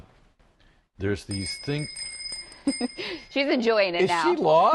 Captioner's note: bike bell